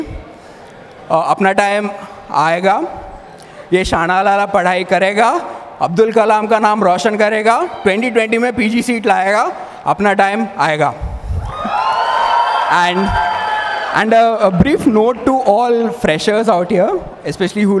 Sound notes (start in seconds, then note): 9.5 crowd cheers